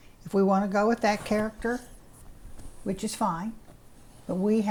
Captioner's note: none